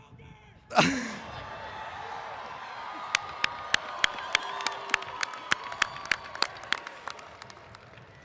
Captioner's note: laughs; crowd cheers